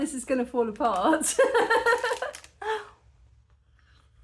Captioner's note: laughing